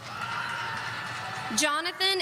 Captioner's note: audience cheering